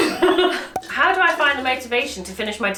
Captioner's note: laughs